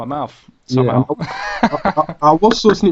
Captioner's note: laughs